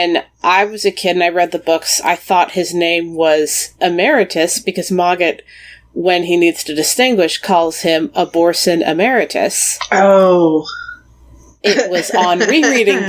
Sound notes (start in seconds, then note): 11.6 laughs